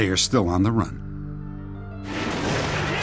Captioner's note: gunfire